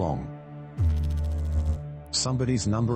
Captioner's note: electrical noise